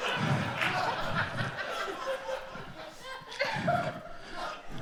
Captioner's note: audience applauds